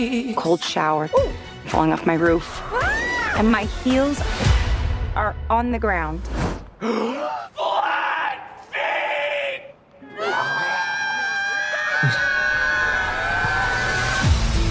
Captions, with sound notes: - Cold shower. - Ooh. - Throwing off my roof. - Ah! - And my heels are on the ground. - [GASPS] - Flat feet! [SCREAMING]